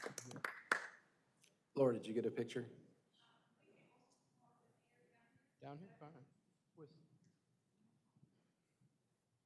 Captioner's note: applause